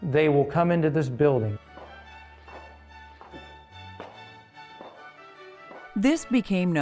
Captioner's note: sound of footsteps